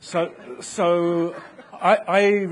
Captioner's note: audience laughing